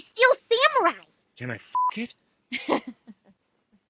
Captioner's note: laughter